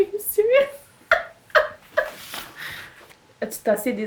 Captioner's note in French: Elle rit